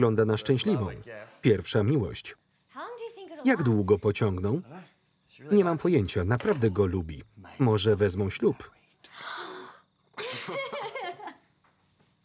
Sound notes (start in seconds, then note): 9.1 gasps; 10.1 laughter